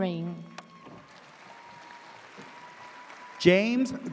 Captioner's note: audience cheers